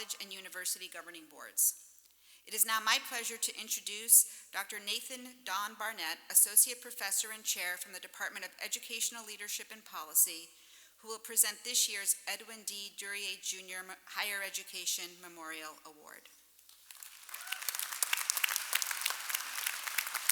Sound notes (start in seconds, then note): 16.6 applause